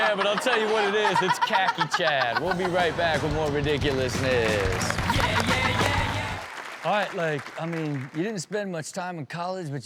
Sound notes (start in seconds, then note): 4.9 Chanel laughing